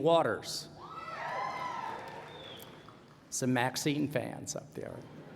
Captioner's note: cheers and applause